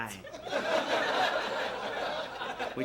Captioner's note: laugh track